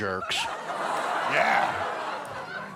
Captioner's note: laughter